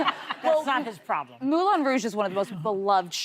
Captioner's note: laughter